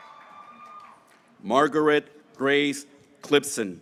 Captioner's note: graduates cheering